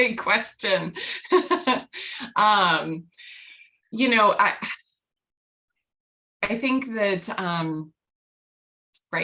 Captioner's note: laughter